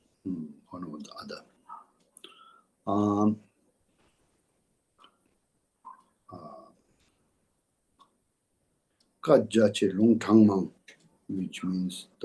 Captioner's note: tibetan